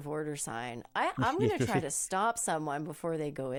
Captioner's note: laughs